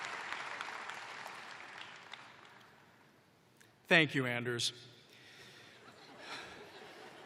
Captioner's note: laughter